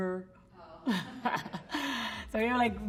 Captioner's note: laughs